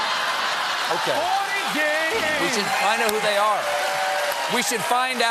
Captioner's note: cheers and applause